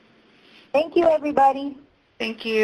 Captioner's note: pat